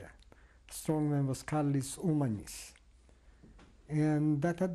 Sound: non-english

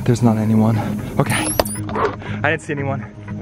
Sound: spy gear beeps

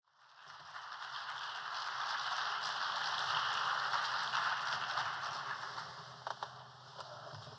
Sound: applause

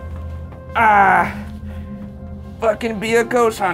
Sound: grunts

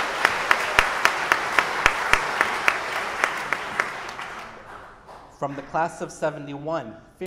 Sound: audience applauding

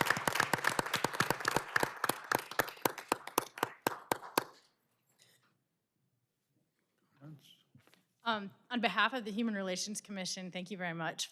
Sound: applause

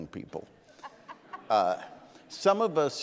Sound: audience laughing

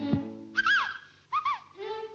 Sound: whistling

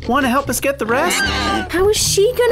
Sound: screech

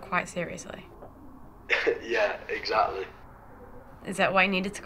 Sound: laughs

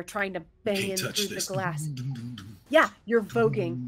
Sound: hums

